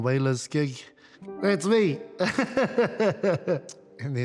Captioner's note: laughs